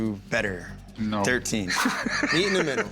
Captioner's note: laughs